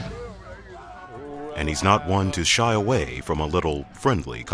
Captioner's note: voiceover